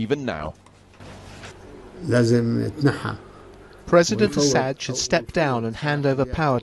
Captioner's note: through translator